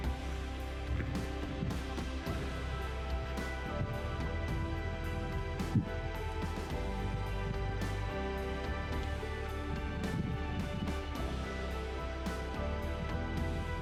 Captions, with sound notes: So I'm not complaining. (soft music) (wind blowing)